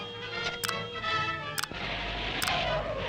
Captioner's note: switch clicks; projector rumbles